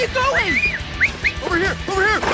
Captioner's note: whistle